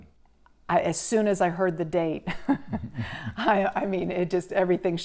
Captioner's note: laughs